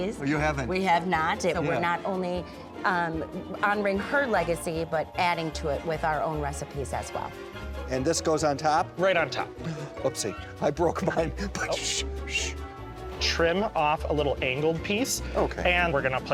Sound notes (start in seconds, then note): 11.4 shushes